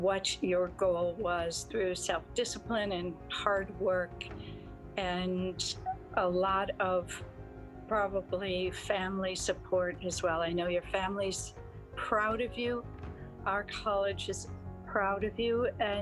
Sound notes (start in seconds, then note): none